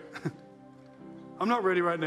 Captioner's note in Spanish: risas